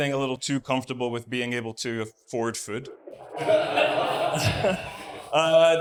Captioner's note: literal awws